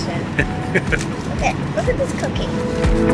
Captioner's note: laughing